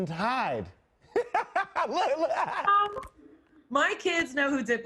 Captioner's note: laughs